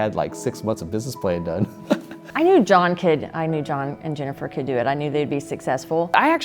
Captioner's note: laughs